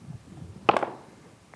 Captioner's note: dice rolling